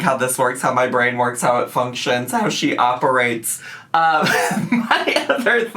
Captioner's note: laughs